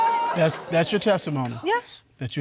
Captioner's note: audience exclaiming